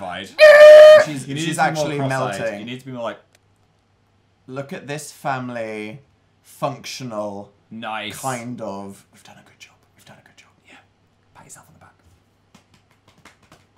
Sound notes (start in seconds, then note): 8.7 whispering; 12.2 patting